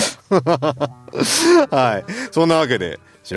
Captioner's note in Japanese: 笑い